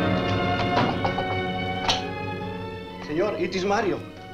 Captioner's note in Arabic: يطرق الباب